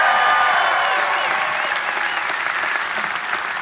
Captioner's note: cheering; whistling